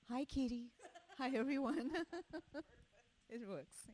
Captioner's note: laughs